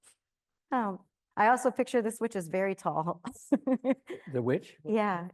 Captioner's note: laughs